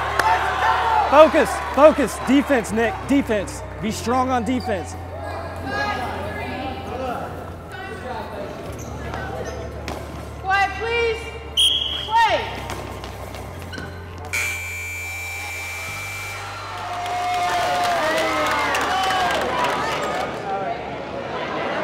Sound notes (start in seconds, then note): 11.5 whistle; 14.4 crowd cheering